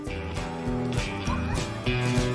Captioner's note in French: laughter